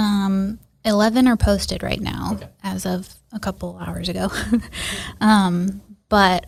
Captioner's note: laughs